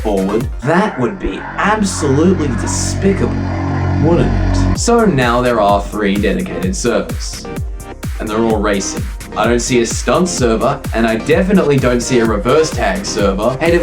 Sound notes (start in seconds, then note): 0.0 music replaced with horror-esque breathing; 4.8 upbeat music returns